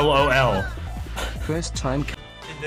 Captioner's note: amused sigh